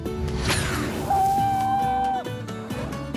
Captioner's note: light music playing; screams